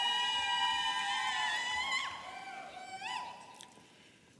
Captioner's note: audience cheering